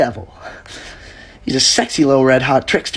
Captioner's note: soft, shuddering breath in